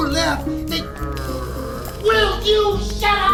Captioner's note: groaning